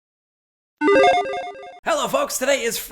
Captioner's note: gaming tones